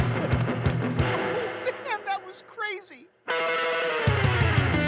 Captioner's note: laughs; energetic music continues